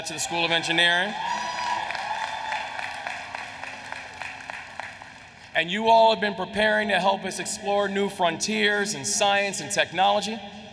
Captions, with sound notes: to the School of Engineering. [Applause] And you all have been preparing to help us explore new frontiers in science and technology.